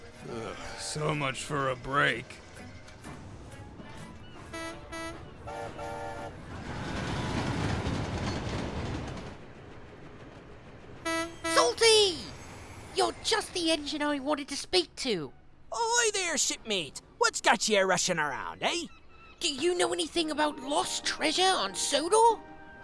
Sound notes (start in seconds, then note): 3.9 porter whistles; 4.4 philip honks horn